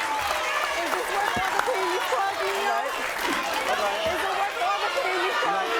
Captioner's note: applause drowns out sounds